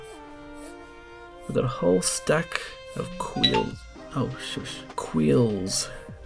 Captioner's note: inturupted by phone notification